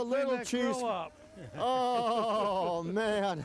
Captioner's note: everyone chuckling